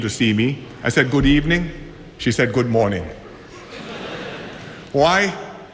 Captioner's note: laughter